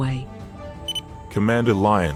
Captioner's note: com beep